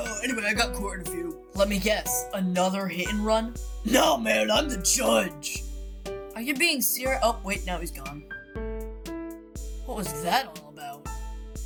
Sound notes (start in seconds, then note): none